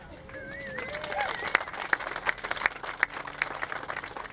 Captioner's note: applauding